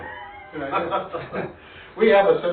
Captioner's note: laughing